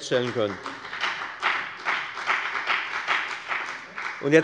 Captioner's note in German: Beifall bei der FDP